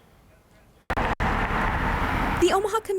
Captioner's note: tires and engine murmur